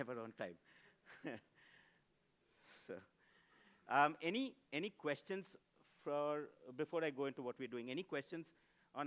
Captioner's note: laughs